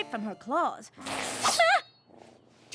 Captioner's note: hiss! shing!